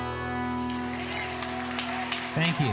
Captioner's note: crowd claps